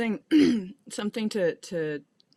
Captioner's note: clears her throat